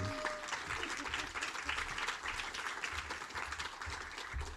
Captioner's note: audience applauds